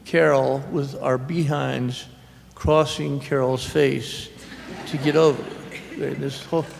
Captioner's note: laughter